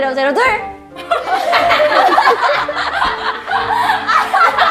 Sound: burst into laughter

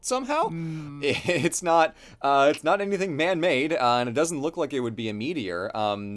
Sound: laughs

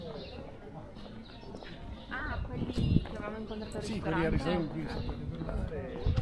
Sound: people chattering

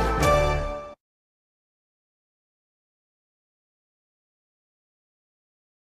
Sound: upbeat orchestral music; silence

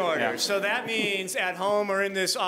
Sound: audience laughing

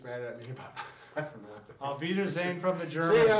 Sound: laughs

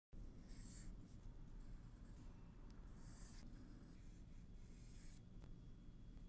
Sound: pencil scratches on paper

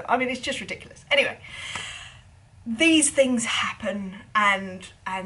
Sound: deep breath

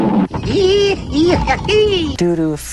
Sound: stereotypical cowboy noies

